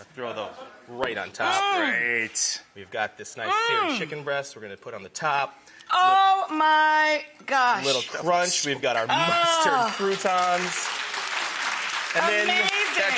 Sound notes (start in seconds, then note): 9.8 audience claps